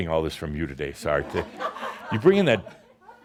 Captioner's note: laughter